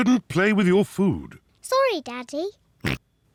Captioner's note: oinks